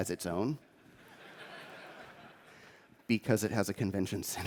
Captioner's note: laughter